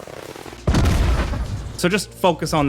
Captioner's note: rocket explodes